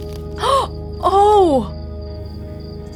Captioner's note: gasp